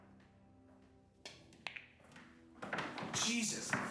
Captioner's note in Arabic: طقطقة كرات